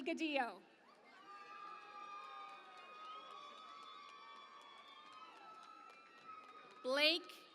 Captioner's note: cheering and Applause